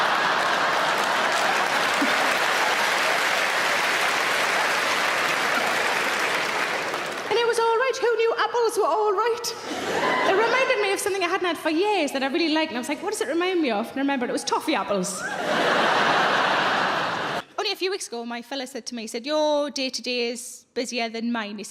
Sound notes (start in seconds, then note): 0.0 audience applauding; 15.2 audience laughing